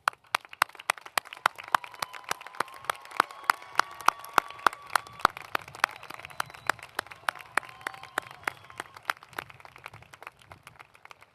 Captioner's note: applause